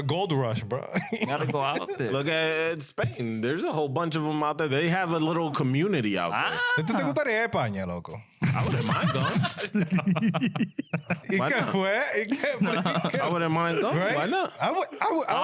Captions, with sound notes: Gold rush bro. You gotta go out there. Look at Spain. There's a whole bunch of them out there. They have a little community out there. (Speaking In Foreign Language) (Laughing) I wouldn't mind though. I know.